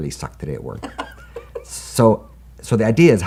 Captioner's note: laughs